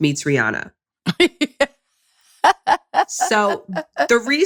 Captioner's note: laughs